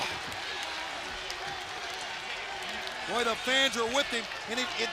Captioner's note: crowd cheering